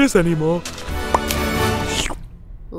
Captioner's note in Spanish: pop